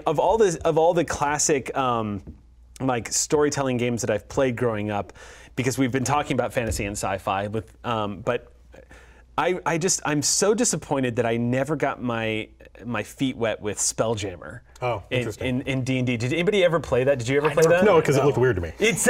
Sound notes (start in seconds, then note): none